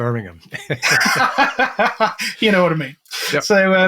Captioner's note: laughs